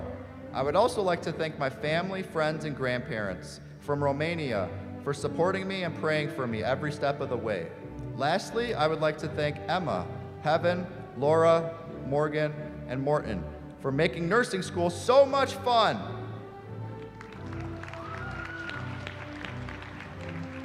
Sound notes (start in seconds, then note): 16.9 applause